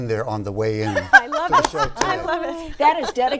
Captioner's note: laughs